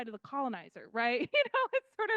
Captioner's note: laughing